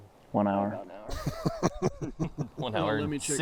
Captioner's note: laughing